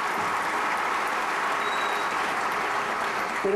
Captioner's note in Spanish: aplausos